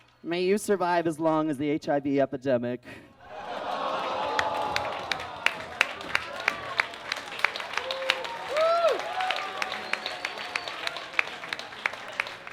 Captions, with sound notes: May you survive as long as the HIV epidemic. [audience groans] [audience claps and cheers]